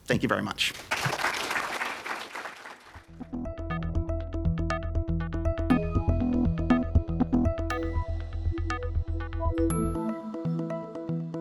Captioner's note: applause